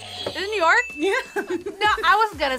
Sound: buzzer rings; laughs

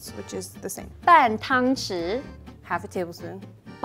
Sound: speaking in mandarin

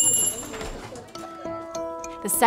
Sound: bell rings

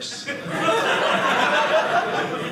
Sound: audience laughing

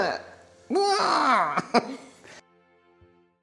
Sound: stangled Cry of Emotion

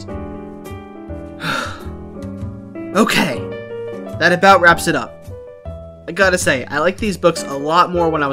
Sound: sigh

